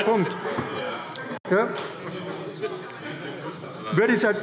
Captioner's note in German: Lachen CDU, BÜNDNIS 90/DIE GRÜNEN und SPD